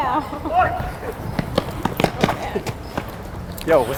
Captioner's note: shouts